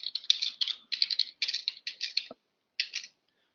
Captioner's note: typing